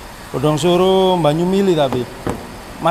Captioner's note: flowing water